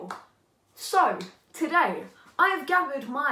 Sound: clap

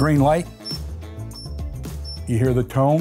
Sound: remote beeping

